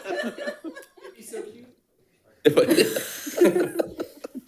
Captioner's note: all laughing